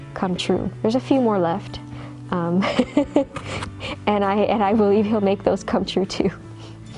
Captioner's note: laughing